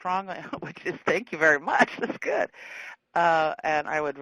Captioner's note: laughing